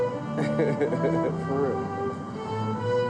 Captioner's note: laughs